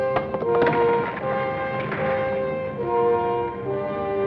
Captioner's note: rock clacks